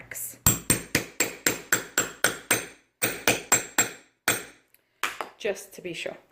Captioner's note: sound of hammering